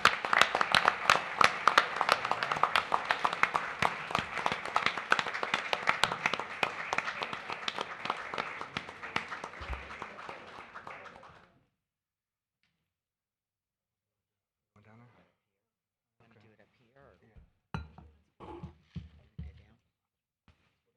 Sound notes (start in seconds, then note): 7.0 applause